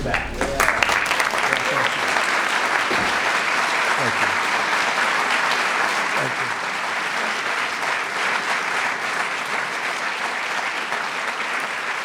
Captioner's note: applause